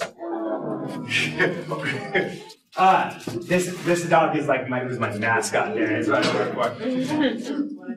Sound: awws

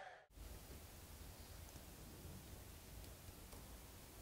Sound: wood creaking

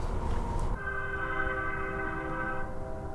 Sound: train whistle

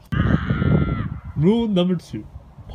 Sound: screams

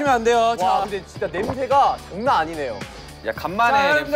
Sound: salivating

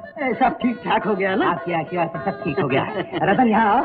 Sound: laughs

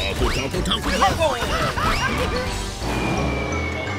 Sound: laughs

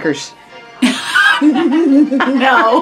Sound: laughing

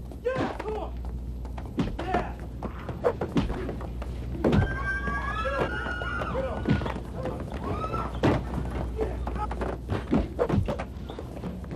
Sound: assorted screaming and fighting noises

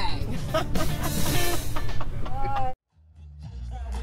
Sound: laughter

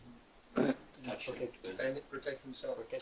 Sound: crowd

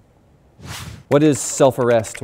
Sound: air whooshing; keyboard clicking

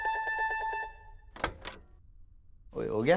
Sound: door opens

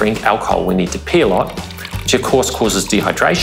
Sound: liquid pouring

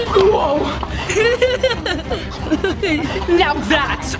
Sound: giggling

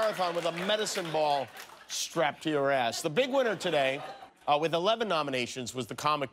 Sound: laughter

